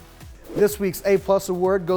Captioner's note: screen whooshing